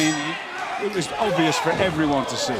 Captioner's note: bell ringing